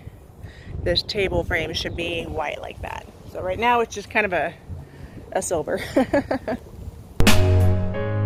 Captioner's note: laughs